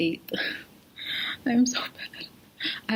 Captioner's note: starts laughing/crying at my procrastination